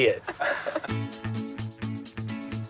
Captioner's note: laughter